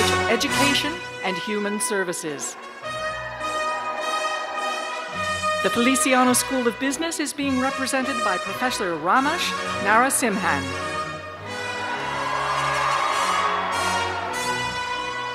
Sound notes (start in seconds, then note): 5.1 cheers; 15.1 cheers and applause